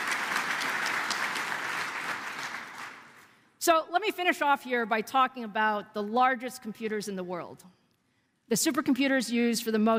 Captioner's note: applause